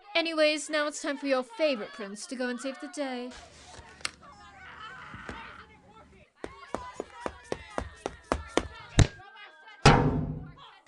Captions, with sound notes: Anyways, now it's time for your FAVOURITE prince to go and save the day~ [running] [THWACK] [hits against metal, HARD]